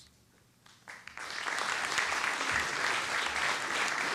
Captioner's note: applause